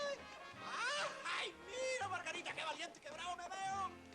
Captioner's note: man speaking Spanish